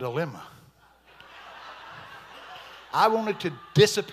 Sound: congregation laughing

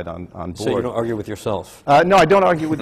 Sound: laughs

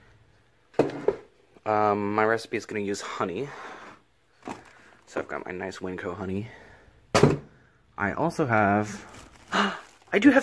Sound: gasp

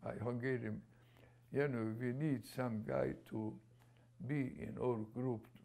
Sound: non-english; non-english

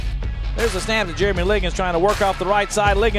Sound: voiceover

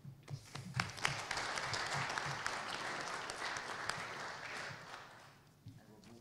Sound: applause

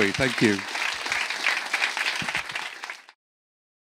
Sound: audience applauding

